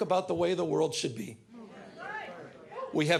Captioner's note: audience members agreeing